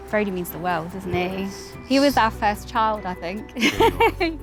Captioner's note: laughing